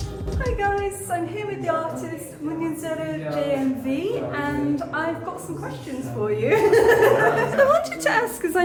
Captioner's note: laughing